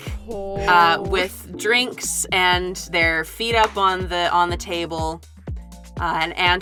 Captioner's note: groans